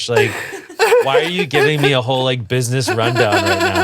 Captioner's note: giggles